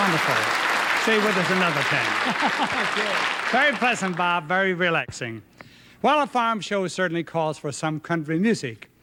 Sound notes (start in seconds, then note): 4.2 applause